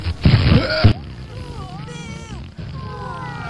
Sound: farting; distant Farting

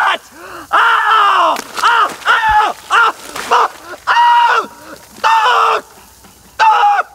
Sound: Shane yelling

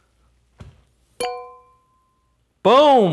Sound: bell clinking

